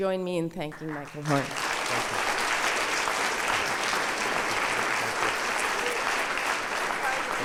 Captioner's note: audience applause